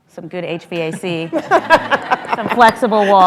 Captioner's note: laughter